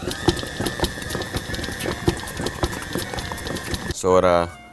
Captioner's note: intense whirring; mixing sound